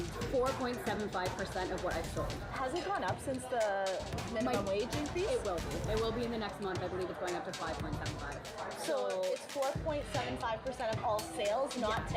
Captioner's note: servers and reporter talking